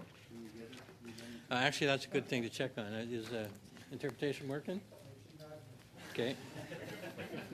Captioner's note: laughter